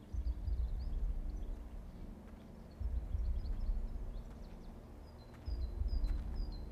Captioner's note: birds chirping; gentle tense music